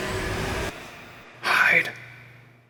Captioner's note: whispered